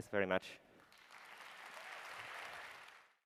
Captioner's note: applause